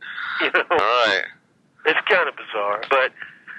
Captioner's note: laughs